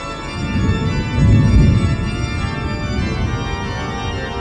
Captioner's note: thunder rolling